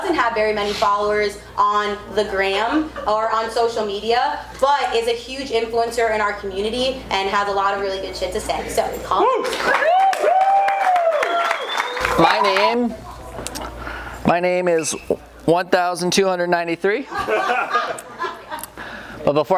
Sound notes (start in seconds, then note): 9.4 audience cheering and clapping; 17.1 audience laughs